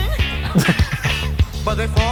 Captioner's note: laughing